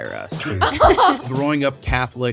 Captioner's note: laughing